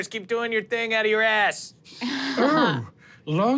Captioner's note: everyone laughs